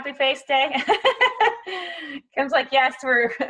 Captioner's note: laughing